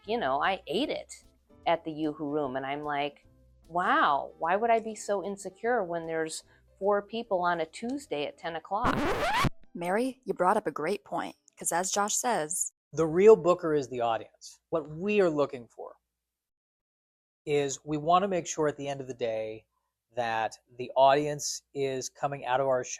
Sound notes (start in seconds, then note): 8.8 record Scratch Sound Effect